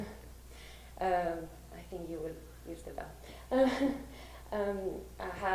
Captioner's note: laughs